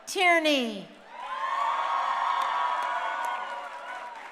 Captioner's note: crowd cheering